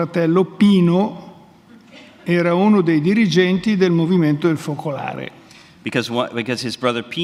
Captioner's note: speaks in Italian